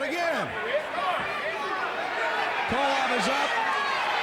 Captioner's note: fans chattering